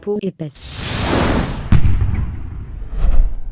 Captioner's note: whoosh